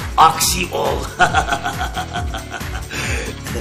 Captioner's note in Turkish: gülme sesi̇